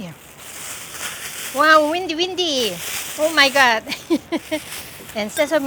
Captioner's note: laughs